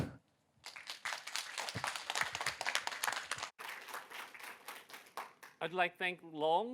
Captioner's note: applause